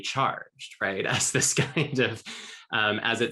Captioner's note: laughing